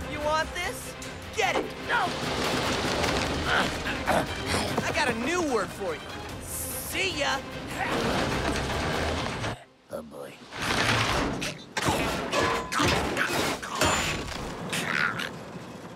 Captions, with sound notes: You want this? Get it! No! I got a new word for you-- see ya! Oh, boy. [CLANGING]